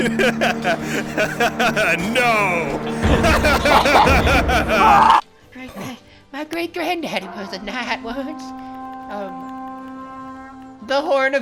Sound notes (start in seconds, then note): 3.5 laughing; 7.3 horn Noises